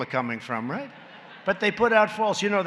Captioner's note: laughter